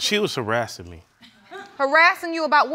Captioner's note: audience laughing